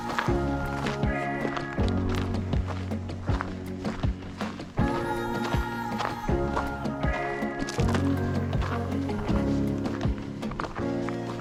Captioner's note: footsteps